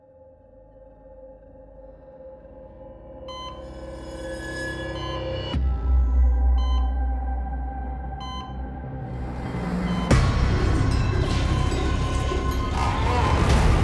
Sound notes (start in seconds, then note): 0.4 mysterious music; 3.7 machine beeping